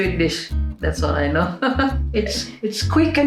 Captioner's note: chuckles